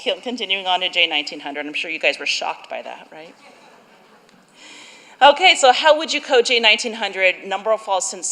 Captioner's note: laughter